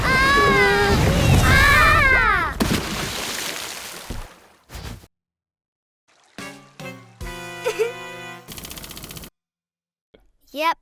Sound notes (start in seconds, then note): 0.1 princesses scream; 2.5 splashing; 6.4 disappointed music; 7.6 Esme laughs